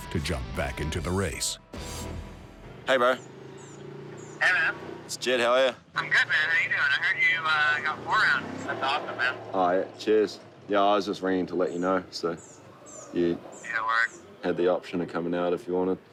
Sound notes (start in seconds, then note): 4.3 on phone; 13.7 on phone